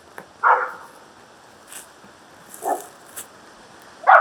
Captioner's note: distant dogs bark